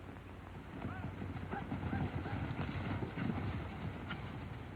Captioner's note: horses galloping